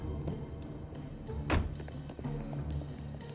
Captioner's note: car door closes